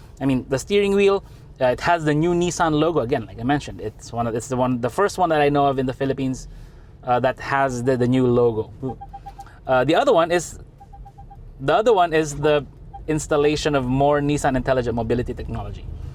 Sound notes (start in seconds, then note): 8.8 beeping sounds